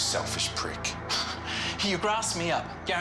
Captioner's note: laughs